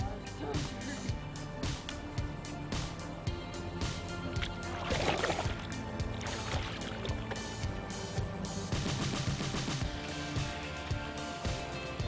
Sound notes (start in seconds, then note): 4.2 splashing